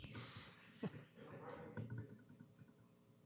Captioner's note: chuckles